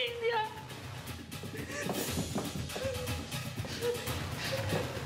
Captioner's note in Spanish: sollozos